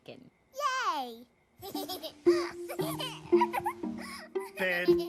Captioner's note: Bluey giggling